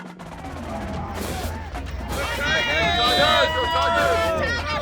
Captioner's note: crowd cheering